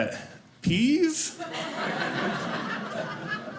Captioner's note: audience laughing